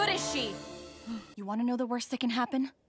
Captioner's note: gasp